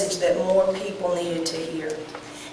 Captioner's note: none